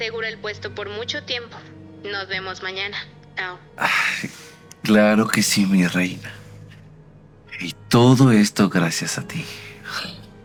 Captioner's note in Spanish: suspiro